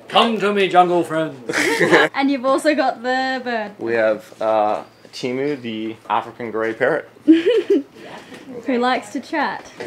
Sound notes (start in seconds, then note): 1.4 laughs